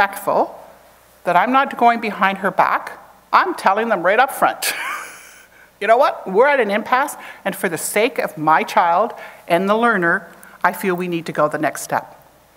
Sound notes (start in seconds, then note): 4.6 chuckles